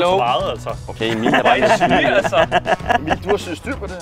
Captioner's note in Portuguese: Risada